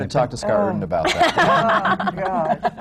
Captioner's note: laughs